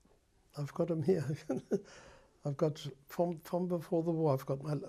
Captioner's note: laughs